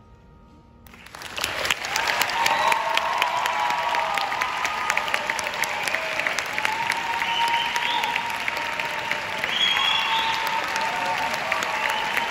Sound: applauds

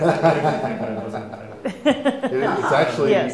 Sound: laughing

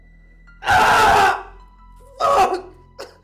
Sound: screaming

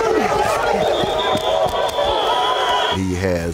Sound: whistle blows repeatedly; players whooping; whistle blows

